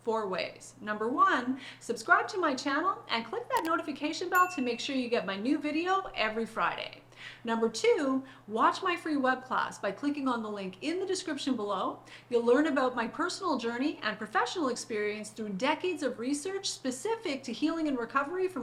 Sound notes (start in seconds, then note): 3.5 mouse clicking; 4.3 bell chiming